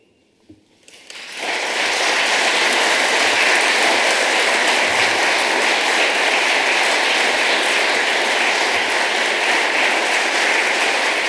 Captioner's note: applause